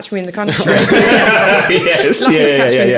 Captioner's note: all laughing